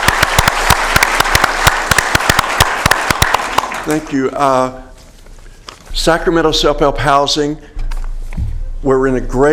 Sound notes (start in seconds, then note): 3.6 applause